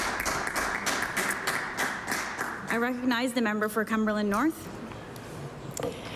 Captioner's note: applause